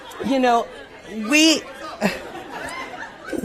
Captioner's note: laughter